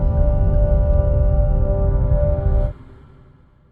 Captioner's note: violent rumble